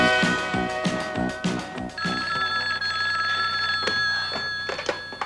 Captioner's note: ring